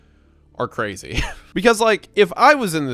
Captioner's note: laughs